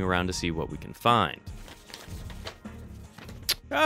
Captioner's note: rummaging